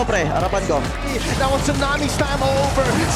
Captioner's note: in Tagalog; commentator 1, in English